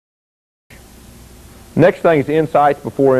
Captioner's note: voiceover